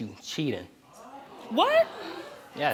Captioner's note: audience gasping